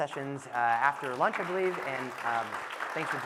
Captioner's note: audience clapping